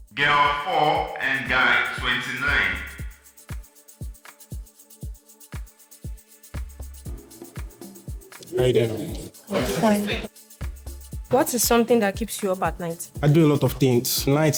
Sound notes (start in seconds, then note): 7.0 clapping